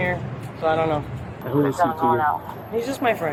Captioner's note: radio chatter